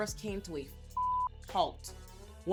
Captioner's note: beep